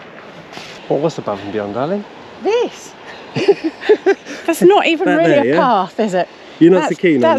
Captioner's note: laughs